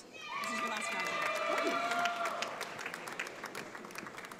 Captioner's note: audience applauds